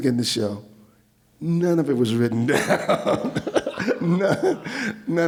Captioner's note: laughs